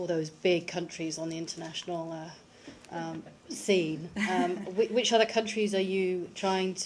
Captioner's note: laughter